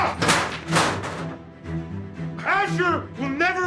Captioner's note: chairs crashing